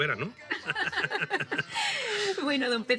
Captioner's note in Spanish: Risas